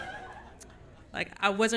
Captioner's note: audience Laughing